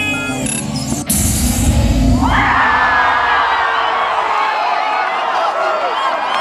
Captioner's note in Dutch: publiek juicht